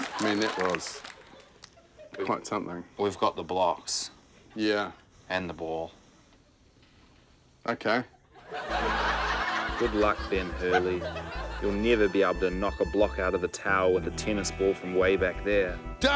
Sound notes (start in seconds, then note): 8.1 laughter